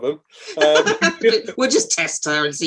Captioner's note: laughing